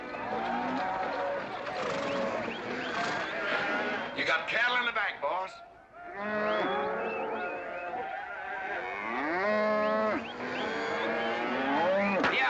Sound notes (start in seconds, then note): 1.6 whistling & mooing; 6.0 whistling & mooing; 8.7 loud mooing